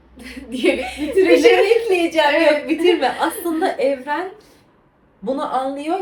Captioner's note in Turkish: kahkaha